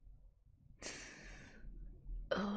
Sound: sharp inhale

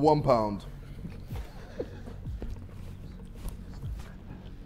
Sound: Sidemen laughing

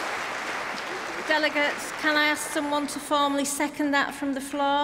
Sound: applause

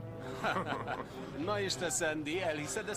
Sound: laughs

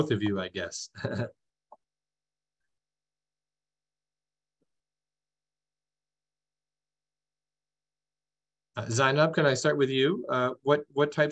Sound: laughter

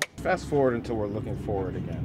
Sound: clapboard clapping

